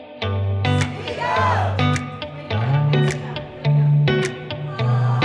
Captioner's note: upbeat acoustic music; all vocalizing loudly